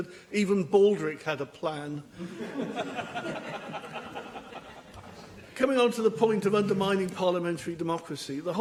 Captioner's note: laughter